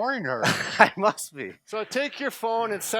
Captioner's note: laughs